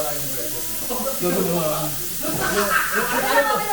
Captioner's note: indistinct chatter